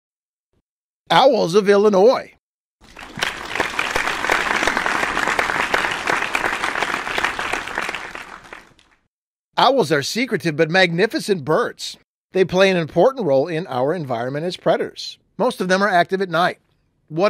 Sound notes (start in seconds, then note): 2.8 applause